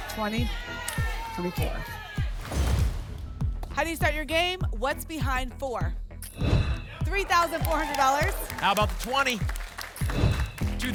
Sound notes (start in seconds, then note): 2.3 thump; 2.3 whoosh; 6.3 whoosh; 10.1 whoosh